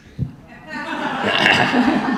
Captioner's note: audience laughing